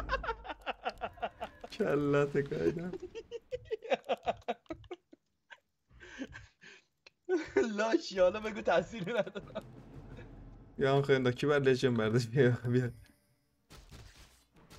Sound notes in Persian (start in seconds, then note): 2.4 خنده